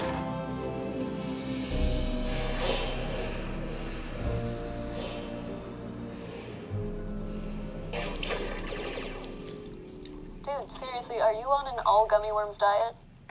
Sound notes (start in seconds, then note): 1.8 eerie sound; 8.0 sound of video game